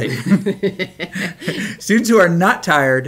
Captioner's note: laughs